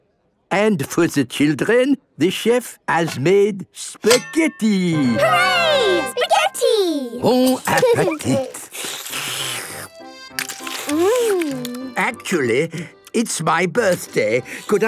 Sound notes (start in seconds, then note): 8.0 slurping